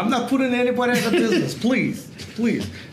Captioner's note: Gary laughs